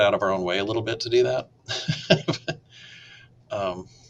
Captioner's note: laughs